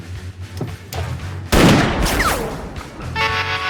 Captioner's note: gunshots